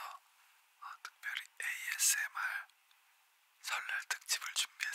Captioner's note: whispering